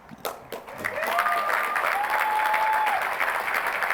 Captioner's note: applause